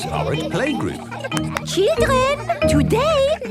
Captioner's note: clapping